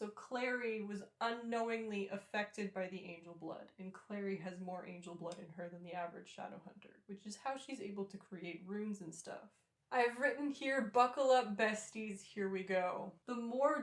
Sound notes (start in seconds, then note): none